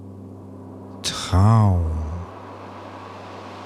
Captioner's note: german